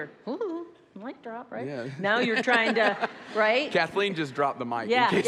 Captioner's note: audience laughs